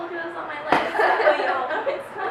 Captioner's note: laughing